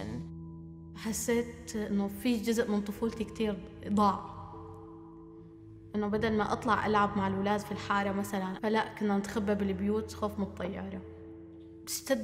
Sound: non-english speech

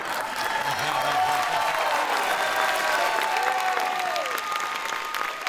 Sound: audience cheering

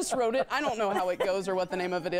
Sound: laughter

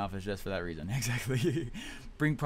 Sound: laughs

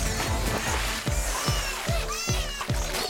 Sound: Bongolalas continues cheering

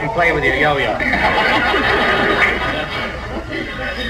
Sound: audience laughs

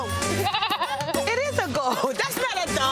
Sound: goat baaing

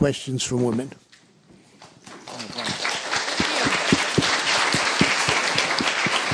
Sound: applause

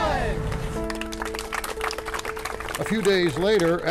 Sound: group clapping

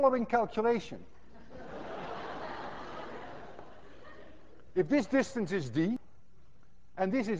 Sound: class laughs

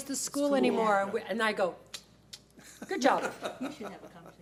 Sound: fingers snapping

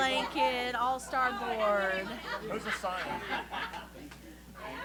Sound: laughter

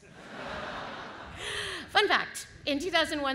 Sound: audience laughs

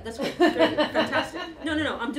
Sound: laughter

